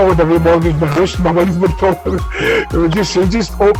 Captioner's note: laughs